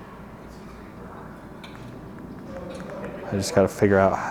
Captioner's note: tongue clicking